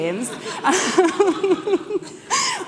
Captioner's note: laughing